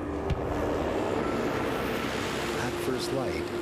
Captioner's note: airplane running; voiceover